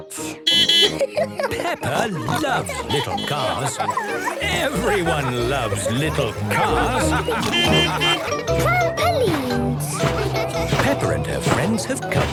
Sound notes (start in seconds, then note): 0.4 beeping and laughing; 6.4 laughter; 7.4 beeping